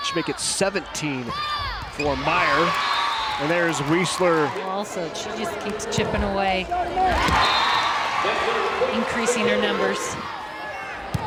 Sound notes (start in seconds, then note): 6.5 crowd and players cheering; 7.2 whistle blows